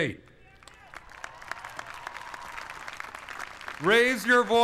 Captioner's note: applause